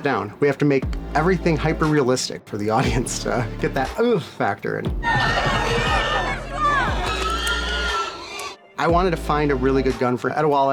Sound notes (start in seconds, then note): 4.8 pig squealing; 5.2 commotion